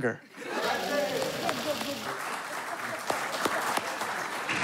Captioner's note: audience clamoring, applauding